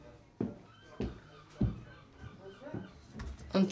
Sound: seagulls crying

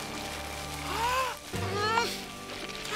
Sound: gasping

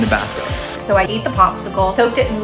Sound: voiceover

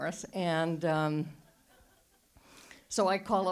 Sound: audience laughs

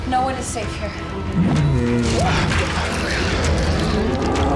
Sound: mummy growling

